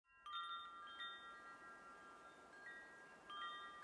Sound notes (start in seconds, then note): 0.1 bells chiming